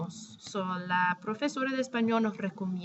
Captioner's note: spanish; speaking spanish